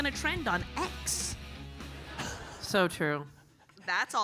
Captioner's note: audience laughing